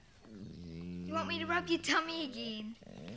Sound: groans

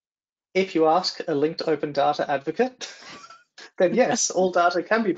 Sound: laughs

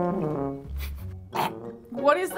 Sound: gags

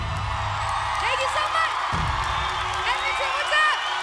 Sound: audience applause

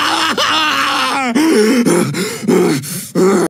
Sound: screaming; huffing

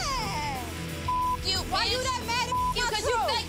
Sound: beep

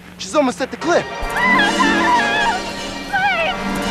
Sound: Daisy screaming

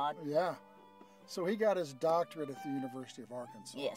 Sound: none

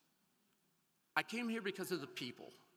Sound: none

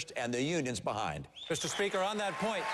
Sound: applause

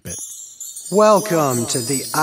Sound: chimes

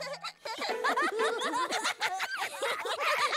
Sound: giggles

